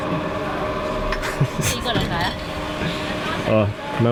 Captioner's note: laughter